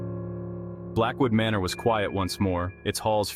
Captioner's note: voice-over